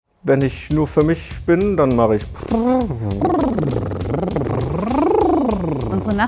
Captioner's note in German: brrr